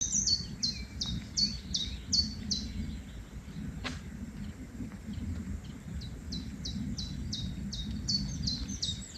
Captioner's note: birdsong